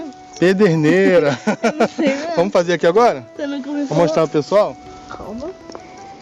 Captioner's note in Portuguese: risadas